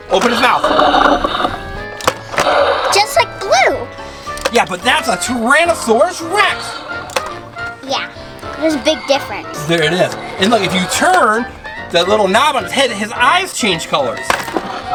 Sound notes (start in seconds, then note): 0.1 dinosaur growl; 0.2 dinosaur roar; 14.7 dinsoaur growls